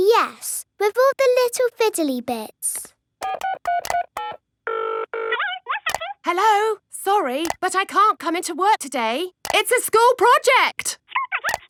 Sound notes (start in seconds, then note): 3.2 dials phone; 5.3 on phone